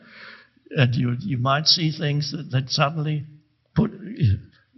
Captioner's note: chuckles